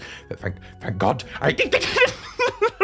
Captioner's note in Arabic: أصوات الامتنان